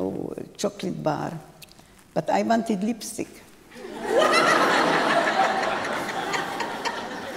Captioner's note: laughter